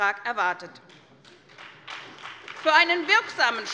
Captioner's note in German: Beifall bei der SPD